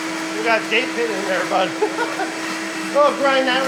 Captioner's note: blender whirring drowns the speech